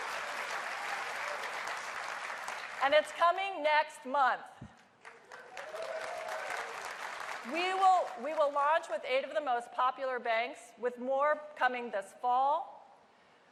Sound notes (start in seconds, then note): 0.1 cheers and applause; 8.6 applause